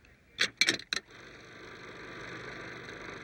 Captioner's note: projector whirring